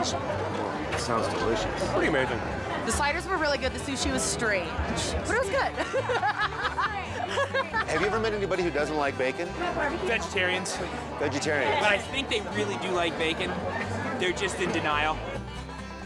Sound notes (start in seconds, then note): 5.7 laughing